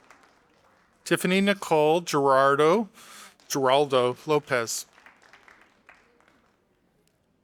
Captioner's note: audience applauding; audience applauding